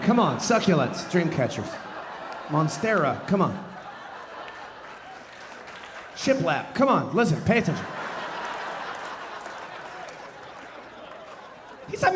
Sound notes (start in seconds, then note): 3.9 audience laughing; 7.3 audience laughing